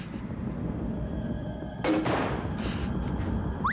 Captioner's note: clanking; whistles